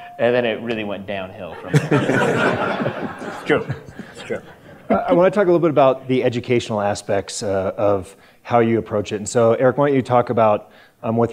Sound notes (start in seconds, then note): 1.6 audience laughter